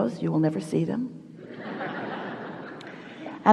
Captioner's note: the audience laughs